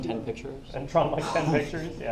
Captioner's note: chuckling